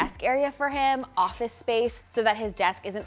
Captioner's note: marker skritching